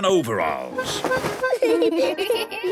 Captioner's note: giggling